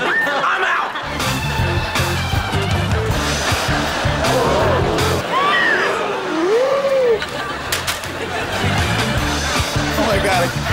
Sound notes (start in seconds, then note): 3.8 gasping